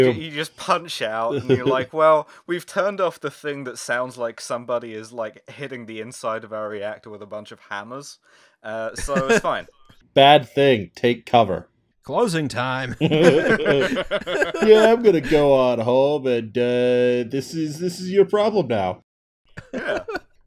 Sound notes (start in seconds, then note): 8.9 laughter; 12.8 laughter